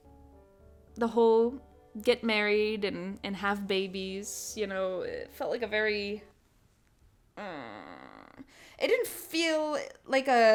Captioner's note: uncomfy groan